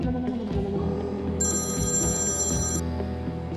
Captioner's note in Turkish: Telefon çalıyor